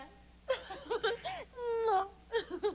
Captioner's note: laughs forcedly